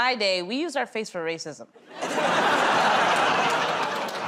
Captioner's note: laughter